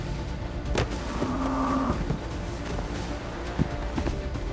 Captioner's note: grunting